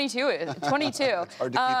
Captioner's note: laughter